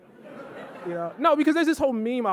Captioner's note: audience laughing